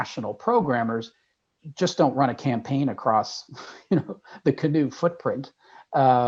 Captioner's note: laugh